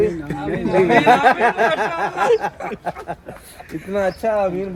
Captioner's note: laughing